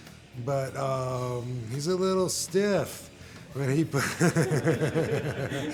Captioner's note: laughs; group laughing